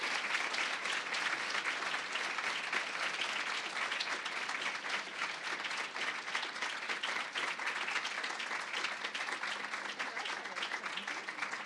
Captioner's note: applause, cheering; applause